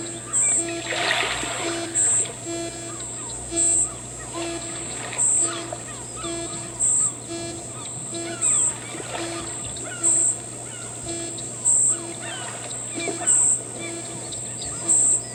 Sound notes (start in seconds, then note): 0.2 cricket’s noises; 6.2 rhythmic repetition of artificial sounds